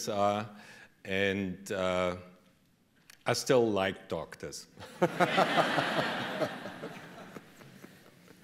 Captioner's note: laughter